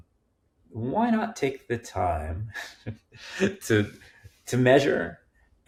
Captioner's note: chuckling